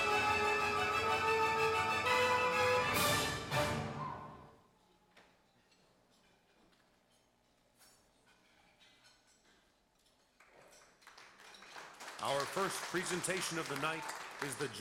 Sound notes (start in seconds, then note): 11.9 applause